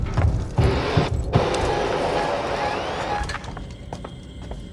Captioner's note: air blowing